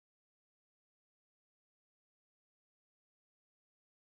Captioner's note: none